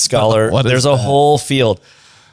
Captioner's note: laughs